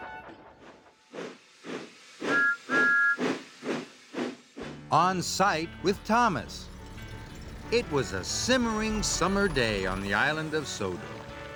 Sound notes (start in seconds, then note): 2.3 toot toot